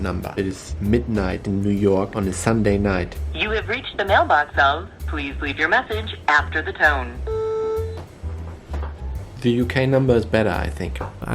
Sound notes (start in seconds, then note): 6.8 tone beeps